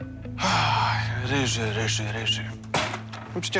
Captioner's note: sighs